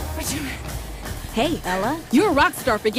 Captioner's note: app Voice